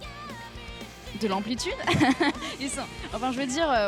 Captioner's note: laugh